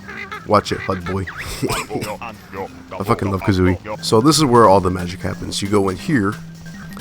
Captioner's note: laughs